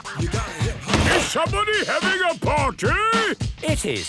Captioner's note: shouts